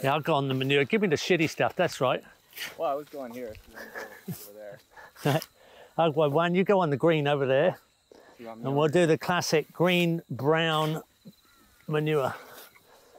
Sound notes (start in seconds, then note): 3.6 chuckles